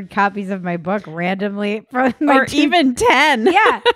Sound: laughing

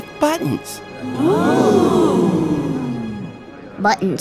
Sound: crowd

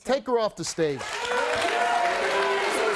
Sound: audience applauding

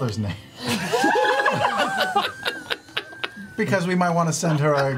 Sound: all laugh

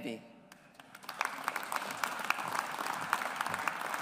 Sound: audience applauds

